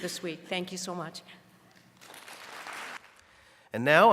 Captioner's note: applause